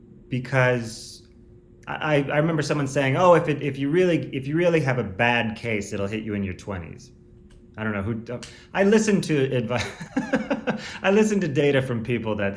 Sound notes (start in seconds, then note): 9.8 laughs